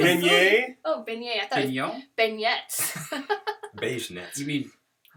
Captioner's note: laughter